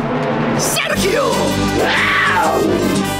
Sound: roaring

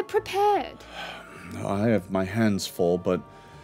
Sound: sighs

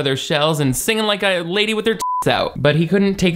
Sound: beep

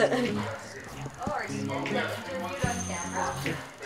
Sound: laughter over music; shop noise

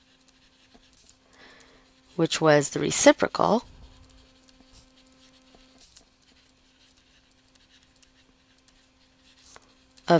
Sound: writing

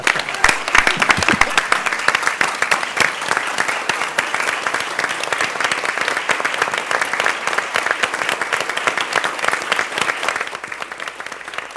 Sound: applause

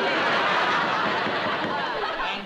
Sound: judge pounds gavel

